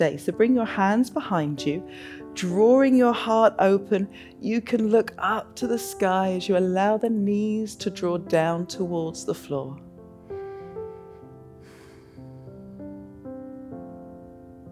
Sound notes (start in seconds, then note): 10.2 inhales; 10.3 exhales